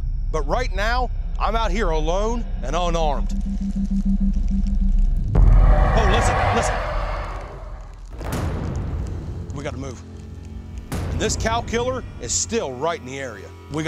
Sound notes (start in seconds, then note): 5.4 creature growling